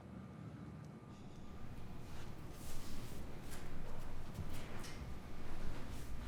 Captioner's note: footsteps